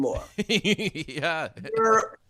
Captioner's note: laughing